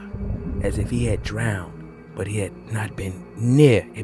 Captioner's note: under water bubbles